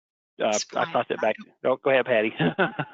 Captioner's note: mumbles